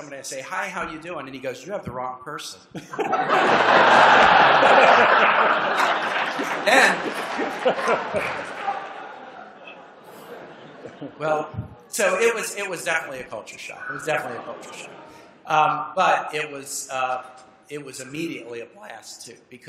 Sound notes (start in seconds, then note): 3.1 laughter